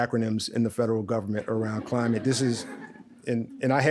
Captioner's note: audience laughs